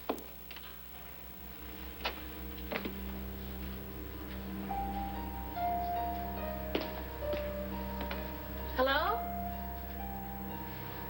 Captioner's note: rustling in hallway